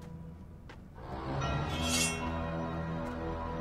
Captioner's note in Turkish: Kılıç Sesi